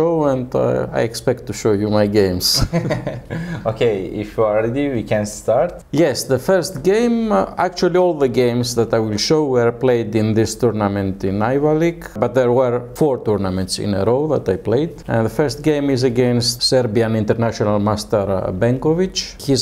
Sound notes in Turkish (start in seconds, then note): 2.5 Karşılıklı gülüşmeler